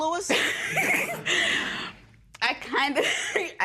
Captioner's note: laughs